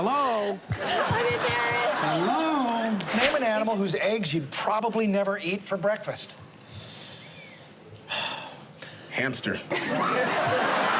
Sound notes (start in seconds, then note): 6.7 inhales, exhales deeply